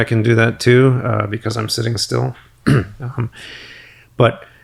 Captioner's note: clears throat